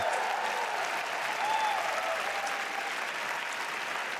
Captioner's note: applause